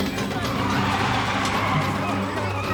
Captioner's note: tires squealing